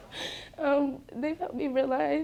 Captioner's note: crying